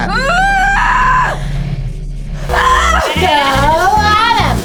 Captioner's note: Abby screaming